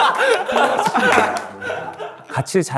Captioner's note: collapsing from laughter